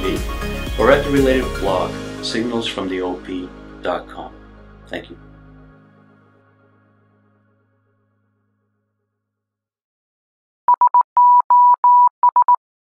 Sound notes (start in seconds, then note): 10.7 morse Code